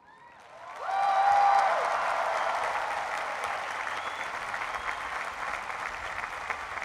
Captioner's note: cheering and applause